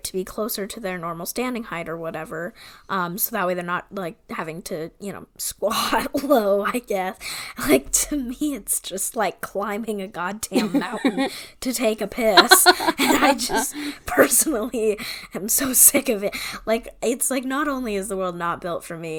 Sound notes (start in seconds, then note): 6.8 laughing